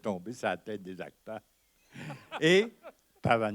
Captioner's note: laughter